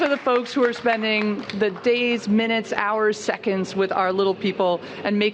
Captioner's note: cheers and applause